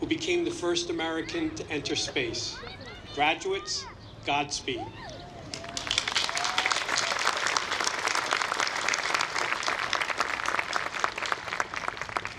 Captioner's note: applause